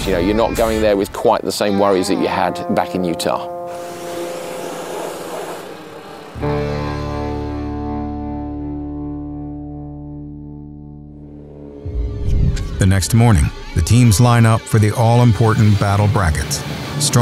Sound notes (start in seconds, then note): 3.7 water blaster spraying; 6.8 distorted guitar music